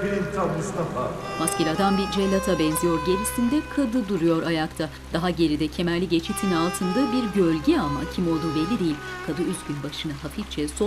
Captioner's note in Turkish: Müzik - Gerilim; Yağmur sesi